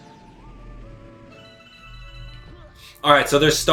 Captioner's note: gaming sounds